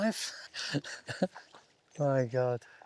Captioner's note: laughs